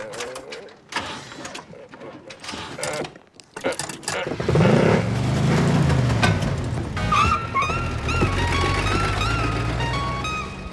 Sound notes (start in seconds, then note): 1.3 grunting; 4.4 engine roars